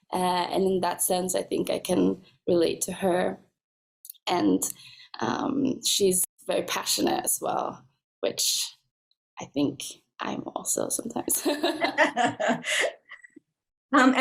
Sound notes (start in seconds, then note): 11.3 laughs